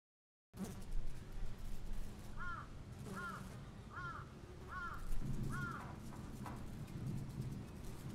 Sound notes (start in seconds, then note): 2.6 distant bird squawking